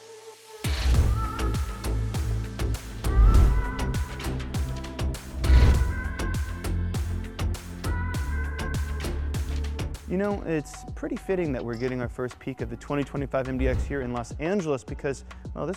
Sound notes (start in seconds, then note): 0.7 graphics whooshing; 0.7 upbeat music